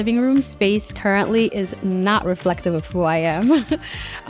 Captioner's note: laughs